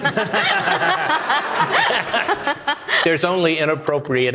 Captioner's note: audience applauding